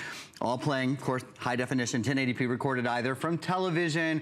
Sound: counting

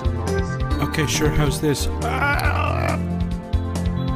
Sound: gurgles

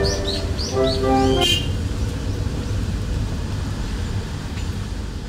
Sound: horn

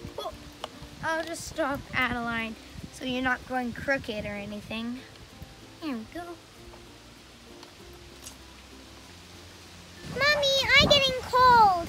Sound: dog barking in background

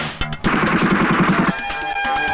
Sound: gunfire

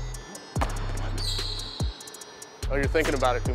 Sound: upbeat music; shoes squeaking

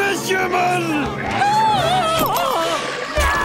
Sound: screaming

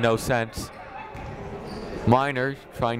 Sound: chatting

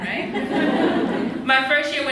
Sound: laughs

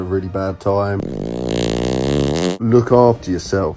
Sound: fart rumbling

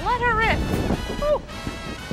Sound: flames whoosh

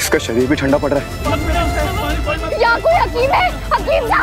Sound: indistinct chatter

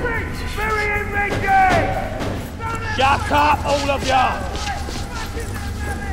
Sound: prisoners shout

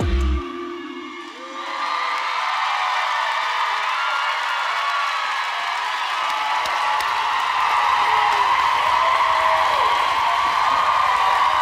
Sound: applause

